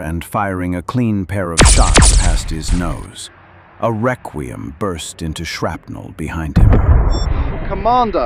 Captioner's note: weapons firing